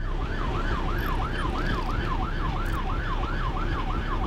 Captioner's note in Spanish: Sirenas ambulancia